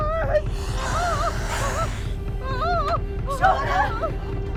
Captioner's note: spider hissing; Shauna crying